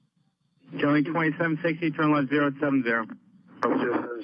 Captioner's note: men chattering